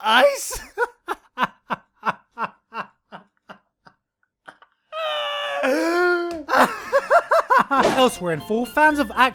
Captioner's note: laughs